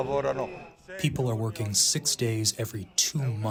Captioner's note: through translator